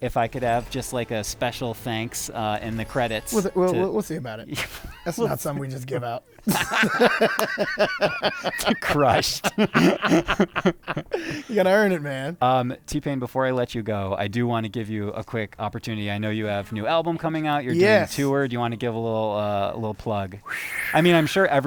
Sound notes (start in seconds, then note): 6.3 laughter